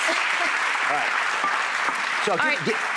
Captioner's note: applause